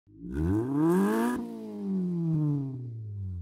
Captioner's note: engine revs